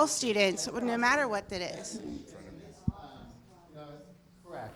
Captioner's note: man speaking off mic